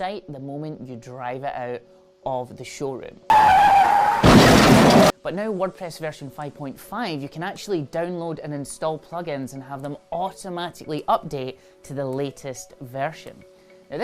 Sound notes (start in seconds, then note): 3.3 tires screeching; 3.3 crash